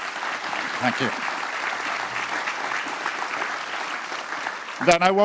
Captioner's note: applause